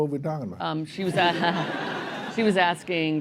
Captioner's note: laughter